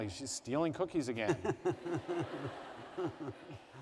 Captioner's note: laughter